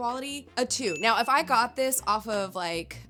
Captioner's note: bell ringing